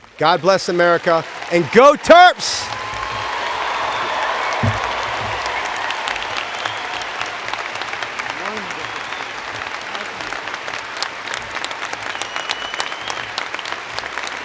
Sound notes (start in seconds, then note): 4.0 cheers and Applause